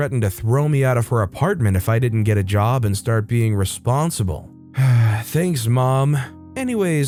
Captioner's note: sigh…